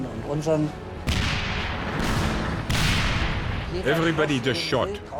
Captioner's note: tank turrets firing